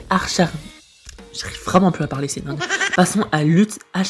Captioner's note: haha